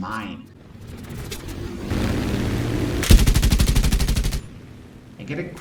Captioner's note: aircraft Engines ,Gunfire, Flying Sounds